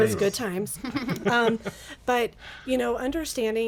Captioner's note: group laughs